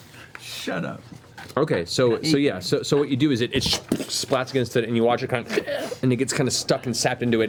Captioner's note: choking noise